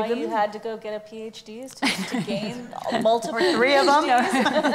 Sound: laughs

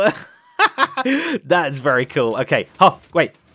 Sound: laughs

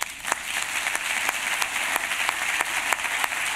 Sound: applause

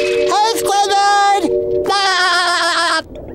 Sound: laughing

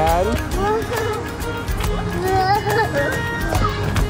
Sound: baby babbling

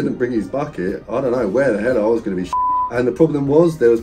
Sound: beep

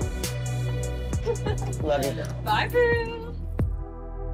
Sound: chuckles

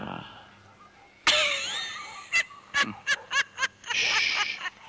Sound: laughs

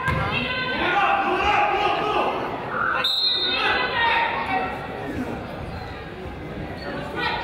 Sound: coach yells; whistle blows

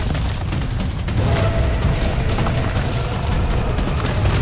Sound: crackling

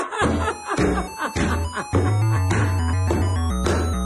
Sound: feet stomping

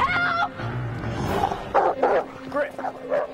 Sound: wolf growling

